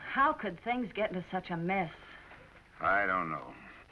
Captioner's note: none